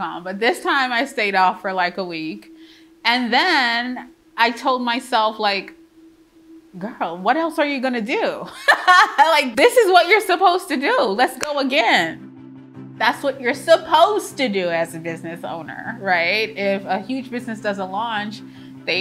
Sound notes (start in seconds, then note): 8.6 laughs joyfully